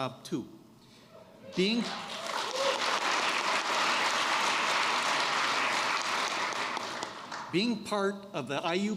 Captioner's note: applause